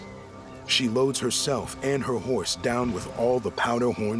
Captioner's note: none